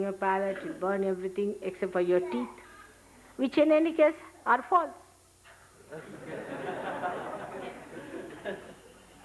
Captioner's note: laughter